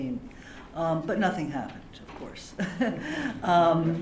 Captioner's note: laughter